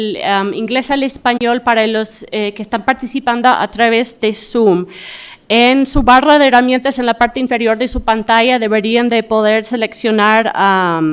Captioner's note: speaking in spanish